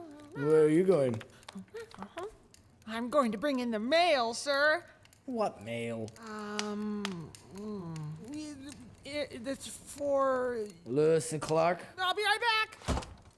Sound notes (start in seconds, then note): 7.0 stammers awkwardly